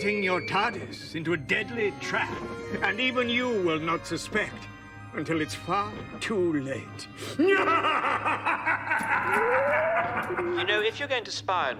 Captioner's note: Laughs in Ainley